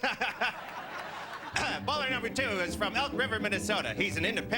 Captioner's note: clears throat